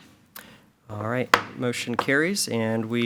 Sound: gavel pounds

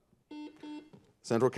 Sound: buzzer buzzes

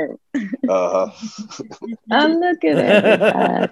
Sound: laughing

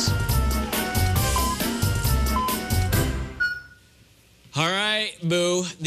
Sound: electronic beeping

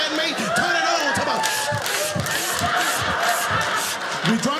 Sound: slurping water

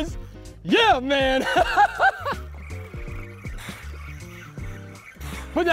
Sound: laughs

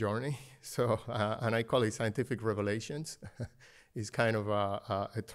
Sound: laughter

